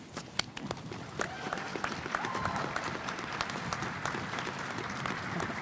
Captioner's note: audience cheers and applauds